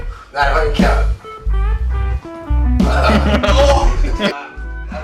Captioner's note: laughs; darts music